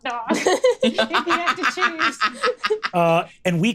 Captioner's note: laughs